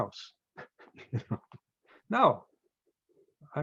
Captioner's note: chuckles